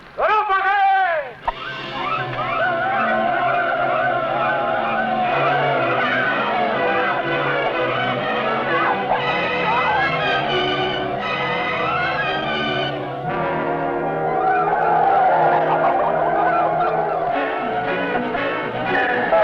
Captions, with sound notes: (man shouting in foreign language) (men shouting) (suspenseful music) Stop them, let me go! (dramatic music)